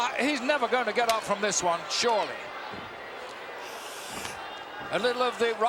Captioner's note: Yokozuna claps